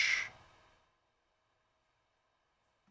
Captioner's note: silence